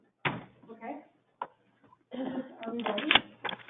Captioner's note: clears throat